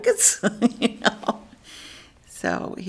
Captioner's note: laughs